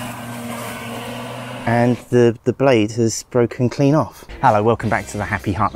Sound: mower noise

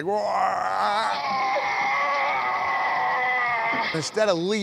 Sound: yelling

